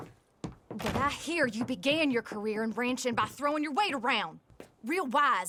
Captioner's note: closes the door